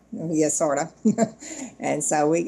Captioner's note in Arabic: يضحك